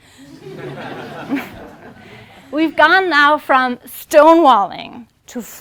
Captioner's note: laugh